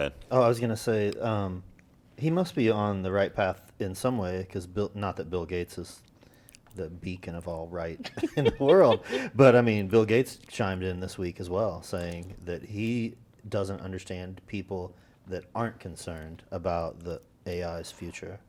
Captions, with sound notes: >> Oh, I was going to say, he must be on the right path in some way because-- not that Bill Gates is the beacon of all right in the world [laughter] but I mean, Bill Gates chimed in this week as well, saying that he doesn't understand people that aren't concerned about the AI's future.